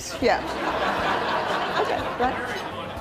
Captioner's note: laughing